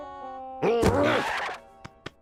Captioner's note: grunts